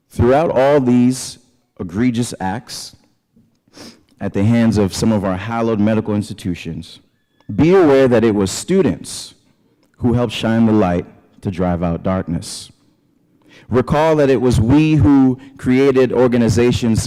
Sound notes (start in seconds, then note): none